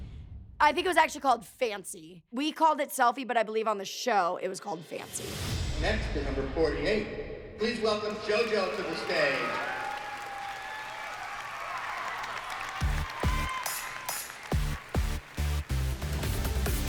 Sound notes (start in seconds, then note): 8.0 cheering; 12.9 funky, fast-paced electronic music playing